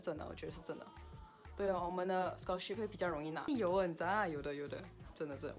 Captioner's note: Korean